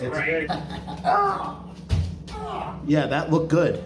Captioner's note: chuckles and grunts